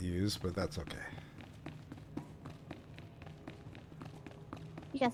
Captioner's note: footsteps